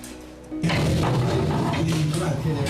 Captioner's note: door scraping